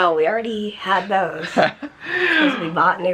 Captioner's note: laughter